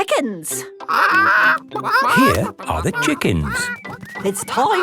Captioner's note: clucking